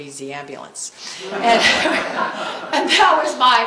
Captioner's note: laughter